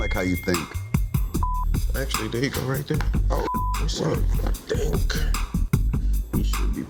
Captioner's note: beeps